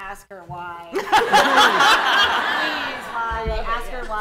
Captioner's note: laughter